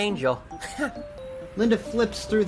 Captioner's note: Malone chuckles